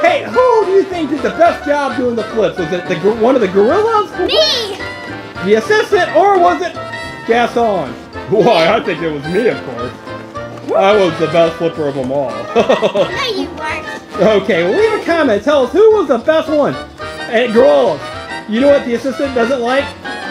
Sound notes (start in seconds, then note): 12.3 laughing